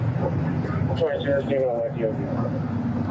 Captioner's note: radio chatter